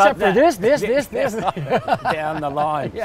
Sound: laughs

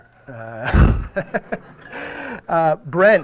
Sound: audience laughing

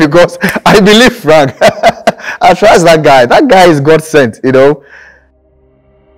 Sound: laughing

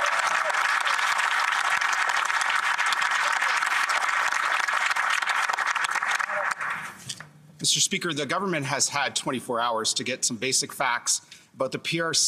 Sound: cheering and Applause

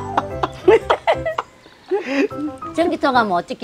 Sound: both laughing

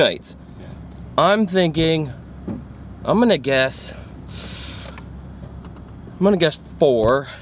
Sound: hissing

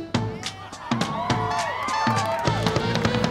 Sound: cheering

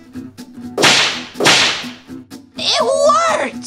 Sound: slam

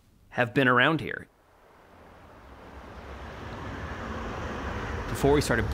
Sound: traffic noise

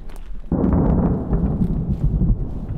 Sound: thunder

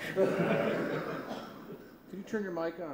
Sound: laughter

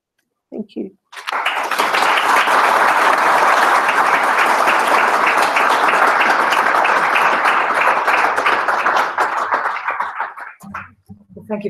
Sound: applause

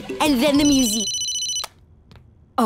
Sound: ringing

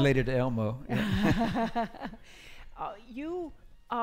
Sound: laughing

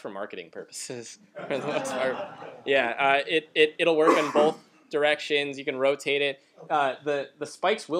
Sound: laughter

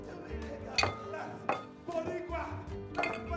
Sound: glass clinking; speaking Spanish

